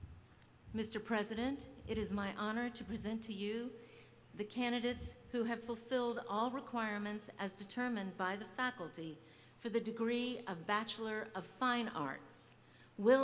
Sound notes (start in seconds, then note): none